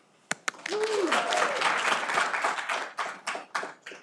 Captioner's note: audience applauding